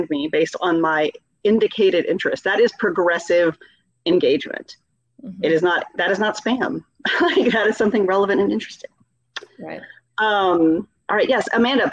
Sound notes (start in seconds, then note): 7.0 laughing